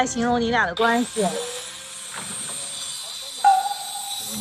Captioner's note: bzzz